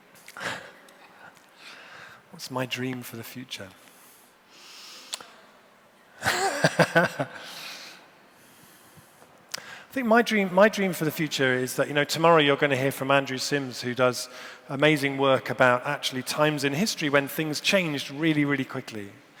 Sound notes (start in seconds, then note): 6.2 laughs